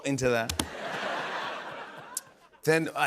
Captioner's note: laughter